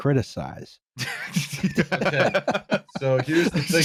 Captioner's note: laughter